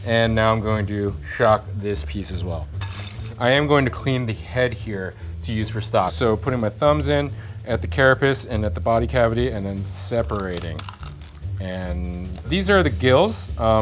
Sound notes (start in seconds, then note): 10.0 lobster cracking